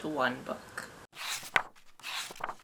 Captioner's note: pages turning